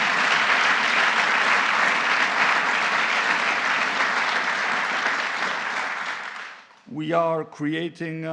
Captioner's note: applause